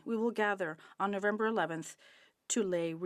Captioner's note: speaking French